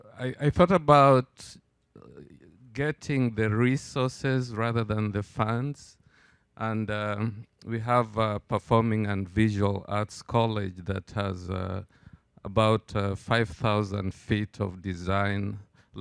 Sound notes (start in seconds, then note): none